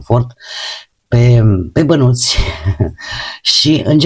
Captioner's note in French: haha